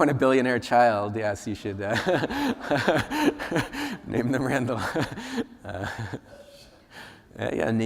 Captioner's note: laughs